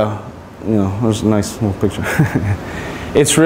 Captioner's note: chuckles